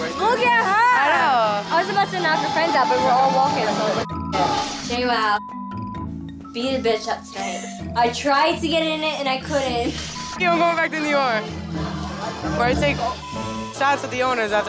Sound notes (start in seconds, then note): 7.5 laughs